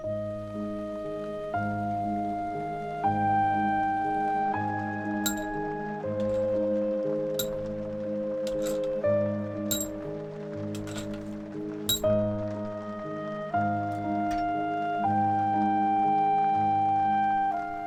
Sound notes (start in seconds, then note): 0.0 sound of heavy rain. Gentle flutes join the music; 6.1 sound of Head Bolts being removed from engine; 9.9 rain is heard pattering on the shed roof